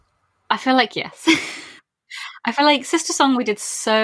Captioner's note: laughs